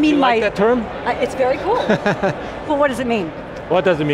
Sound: laughs

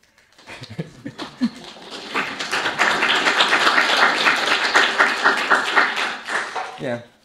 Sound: claps!

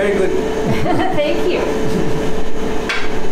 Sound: laughing

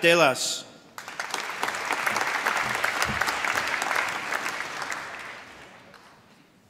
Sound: applause

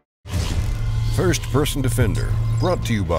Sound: voiceover

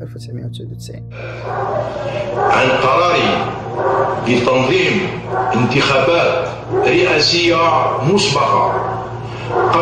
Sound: Liamine Zeroual in classical Arabic

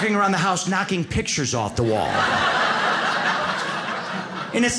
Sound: audience laughs

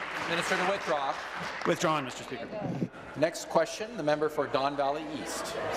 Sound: applause

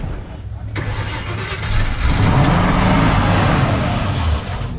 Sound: sound of starting the engine

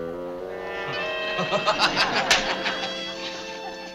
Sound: laughs

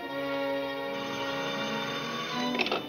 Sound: phone rings

